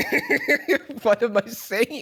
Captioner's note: laughs